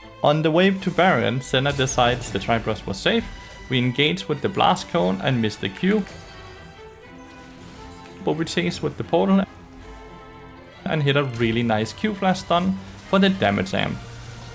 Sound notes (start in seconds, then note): 6.2 washed Bard noises